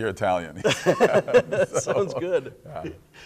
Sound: laughing

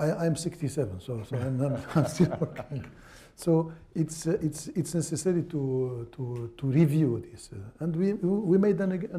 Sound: laughter

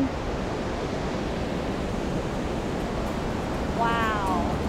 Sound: water rushing

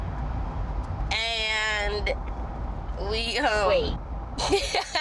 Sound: laughs

